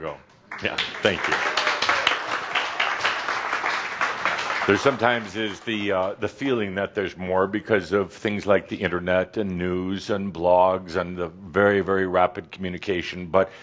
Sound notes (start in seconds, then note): 4.9 audience applause